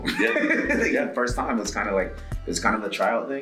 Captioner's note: laugh